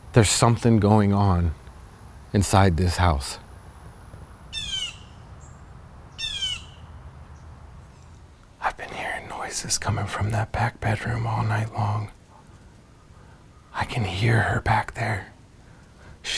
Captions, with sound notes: There's somethin' going on inside this house. (bird squawks) I've been hearing noises comin' from that back bedroom all night long. I can hear her back there.